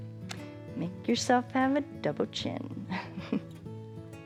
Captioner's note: chuckles